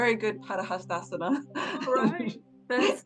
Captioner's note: laughing